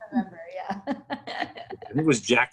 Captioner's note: laughs